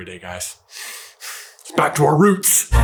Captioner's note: happy exhale